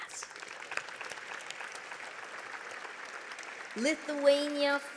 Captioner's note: audience clapping